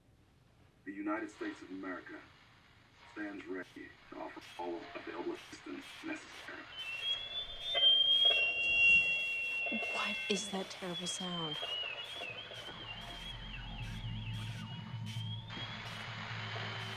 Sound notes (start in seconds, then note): 6.9 alarm; 11.9 whistle; 14.4 fire smoke alarm